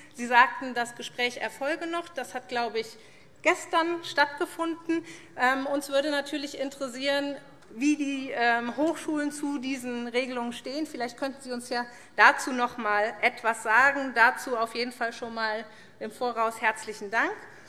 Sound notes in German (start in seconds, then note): none